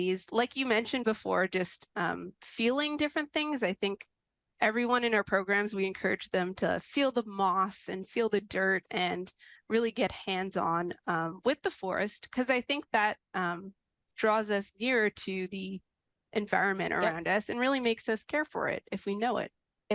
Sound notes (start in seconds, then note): none